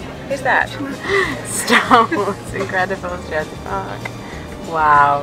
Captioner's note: gasp